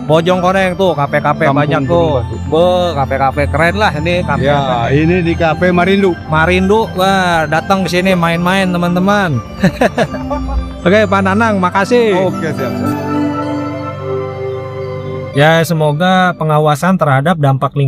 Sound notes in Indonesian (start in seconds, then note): 9.6 tertawa